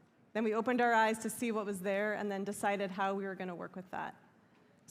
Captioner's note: none